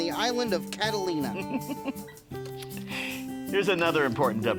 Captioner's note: chuckling